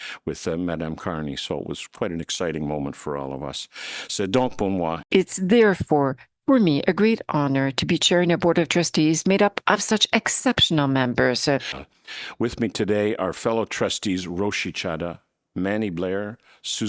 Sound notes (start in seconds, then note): 4.1 speaking in French